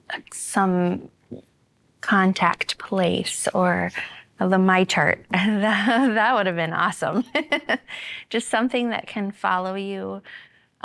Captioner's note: laughter